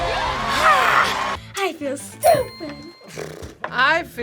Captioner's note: crowd cheers; bell rings